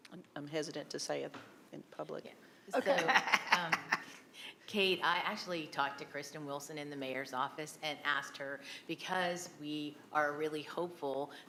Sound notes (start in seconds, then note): 2.7 laughing